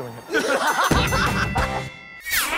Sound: ding!

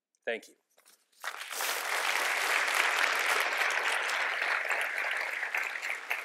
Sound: applause

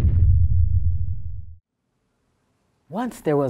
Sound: rumbling dying out

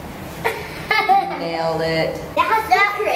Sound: laughs

